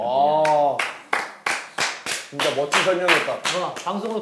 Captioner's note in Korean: 뭔지 모르겠지만 일단 박수